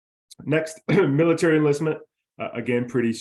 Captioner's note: coughs